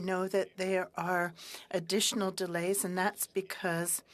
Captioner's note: speaking french